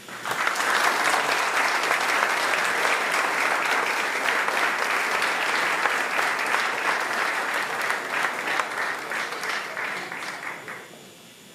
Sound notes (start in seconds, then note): 2.7 applause